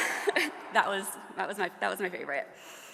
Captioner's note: audience laughing